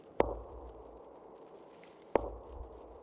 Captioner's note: echoey taps